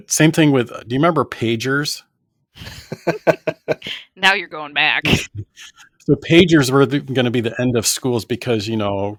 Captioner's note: laughter